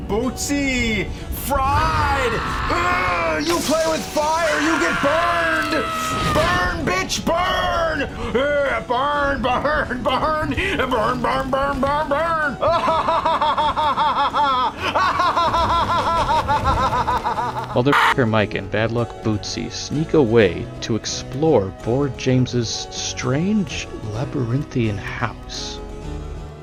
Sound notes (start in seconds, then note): 11.6 laughing maniacally; 12.4 creepy bowser's laugh